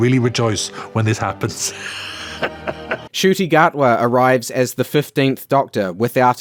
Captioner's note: laughs knowingly